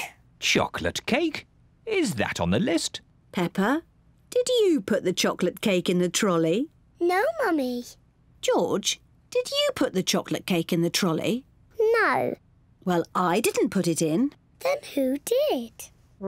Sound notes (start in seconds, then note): none